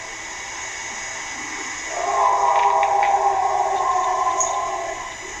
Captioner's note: animal howling continues